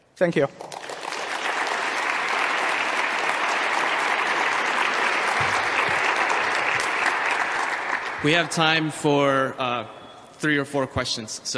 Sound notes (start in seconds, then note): 1.3 applause